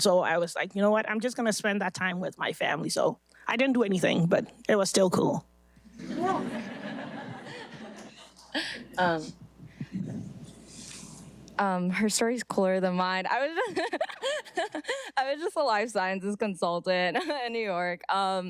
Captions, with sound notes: So I was like, "You know what? I'm just gonna spend that time with my family." So I didn't do anything but it was still cool. (audience laughing) - Her story's cooler than mine. (laughs) I was just a life sciences consultant in New York.